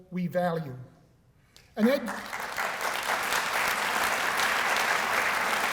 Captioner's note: applause